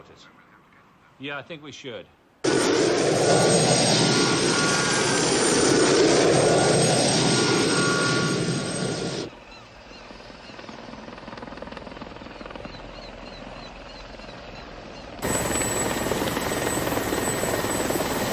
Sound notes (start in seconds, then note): 2.3 helicopter noise